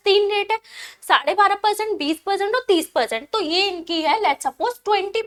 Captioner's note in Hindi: अचानक ज़ोर से सांस लेने की आवाज़